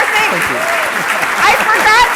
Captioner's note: applause